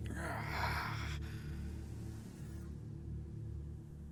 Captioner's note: soft tense music; Brocheet groans softly